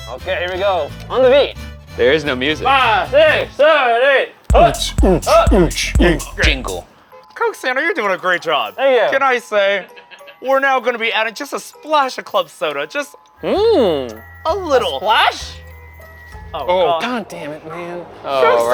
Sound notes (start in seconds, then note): 4.5 beatboxing